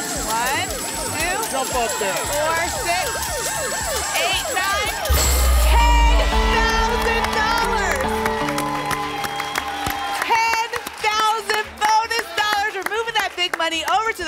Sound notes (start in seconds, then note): 7.7 applause and cheering